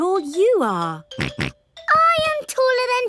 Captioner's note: snorts